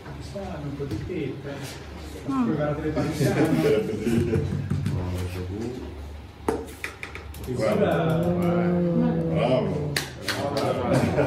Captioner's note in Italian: Applauso